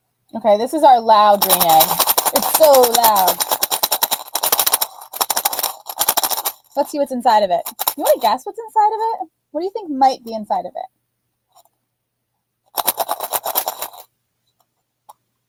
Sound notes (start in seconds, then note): 3.5 loud rattling; 12.7 rattling